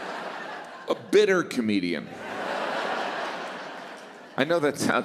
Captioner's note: laughter